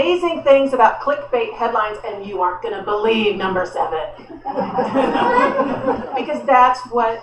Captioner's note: laughter